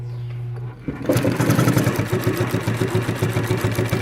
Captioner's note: rattling